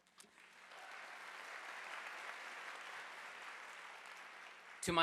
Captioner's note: audience applauding